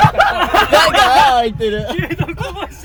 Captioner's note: panicking